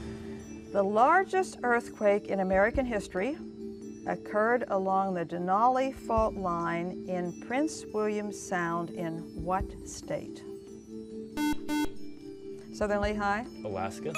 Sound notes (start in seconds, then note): 11.3 buzzer